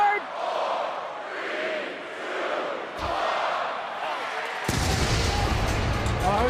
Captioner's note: crowd chatter